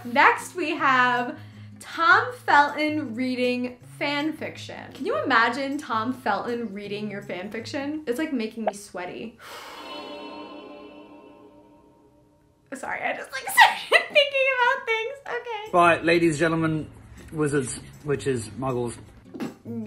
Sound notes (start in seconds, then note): 9.5 sighs; 9.6 magical warbling; 13.7 laughs